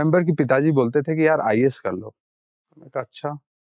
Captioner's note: speaking in Hindi